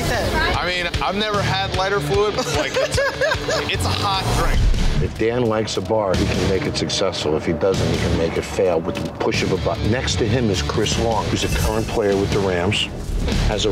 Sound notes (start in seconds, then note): 2.3 laughs